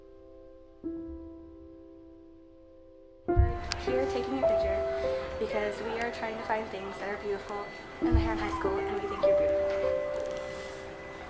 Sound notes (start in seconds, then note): 3.6 voiceover